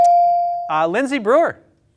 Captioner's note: bell ringing